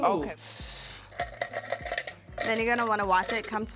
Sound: jar rattling

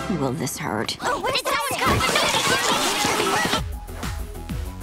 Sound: yelling

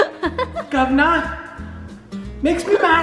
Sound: laughing

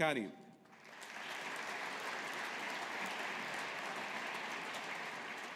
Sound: audience applauding

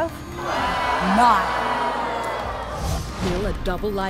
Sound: audience jeering

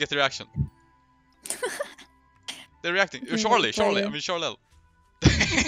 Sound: haha

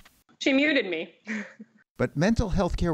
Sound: laughter

